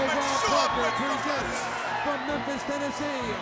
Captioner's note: crowd chatter